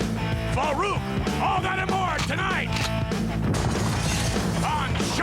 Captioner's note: gun cocking; gunfire booming